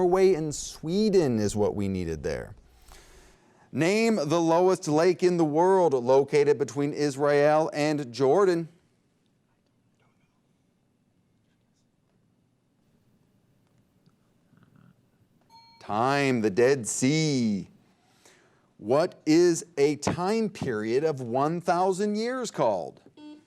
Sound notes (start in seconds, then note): 15.5 bell ding